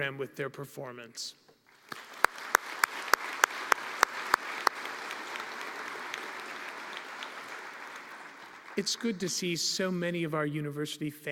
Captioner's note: applause